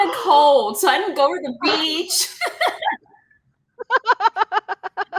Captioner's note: laughing